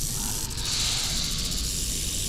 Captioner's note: snakes hissing